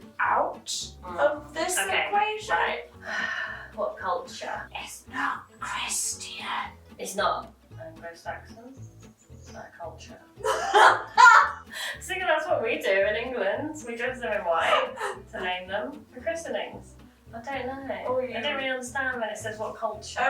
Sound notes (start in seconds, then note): 10.4 laughing